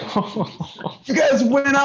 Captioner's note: laughter